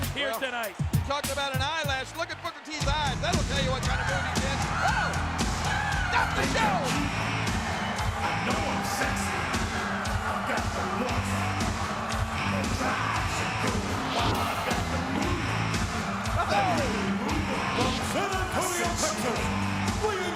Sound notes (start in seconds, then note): 14.1 graphic whooshes